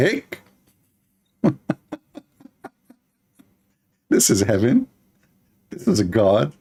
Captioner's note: Ketawa